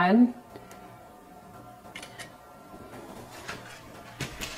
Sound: camera phone clicks

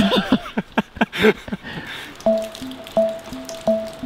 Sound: both laugh

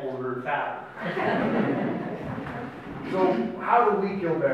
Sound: audience laughs

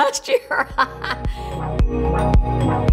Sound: laughs; upbeat music

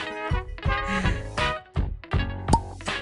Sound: exhale; pop

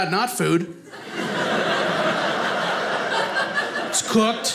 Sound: audience laughing

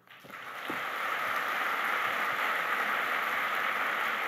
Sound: applause

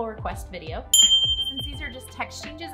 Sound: ding

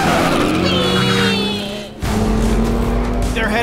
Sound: engines roaring; wailing; dramatic music

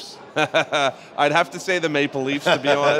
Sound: laughs

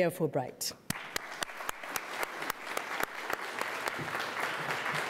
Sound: audience applauding

